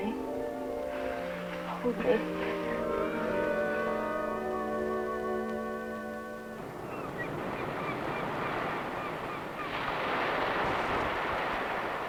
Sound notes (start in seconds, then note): 5.9 seagulls cawing; 8.6 waves crashing